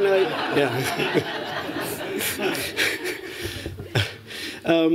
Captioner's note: laughter